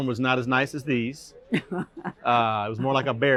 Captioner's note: laughter